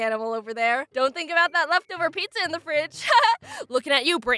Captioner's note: giggles